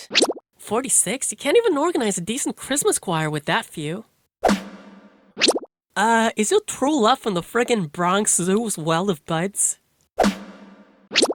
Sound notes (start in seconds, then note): 5.7 in NYC accent